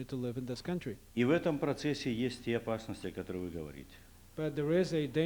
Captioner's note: non-english speech